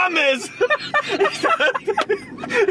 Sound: laughs

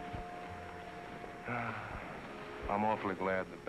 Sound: sighs

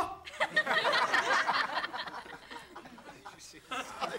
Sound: audience laughing

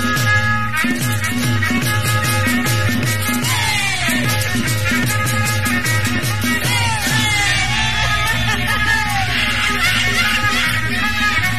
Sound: laughs

